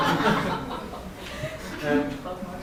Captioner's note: audience laughs